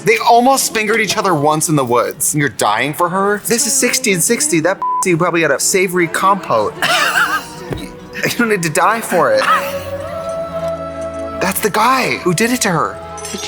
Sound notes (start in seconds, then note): 5.5 Katya laughs